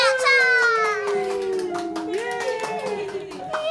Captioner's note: people clapping; adults cheering softly